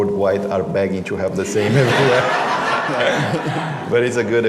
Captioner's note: laughter